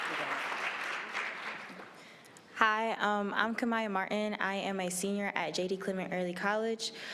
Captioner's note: applause